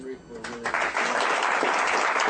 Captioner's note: applause